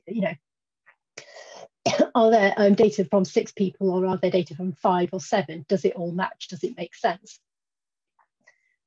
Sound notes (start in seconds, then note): 1.8 cough